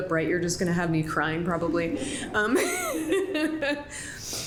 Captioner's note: laughs